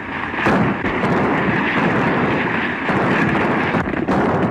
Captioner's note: machine gun fires